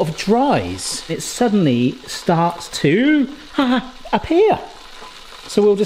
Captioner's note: groans